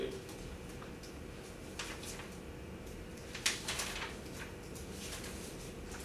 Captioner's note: professor shuffling papers